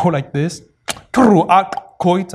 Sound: non-english

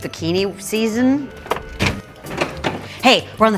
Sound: fridge door slams

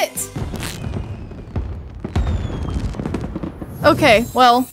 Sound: fireworks firing

